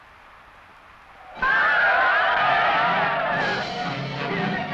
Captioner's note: animal calling; Yaqui shouting; suspenseful music